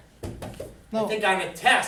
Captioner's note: raps on blackboard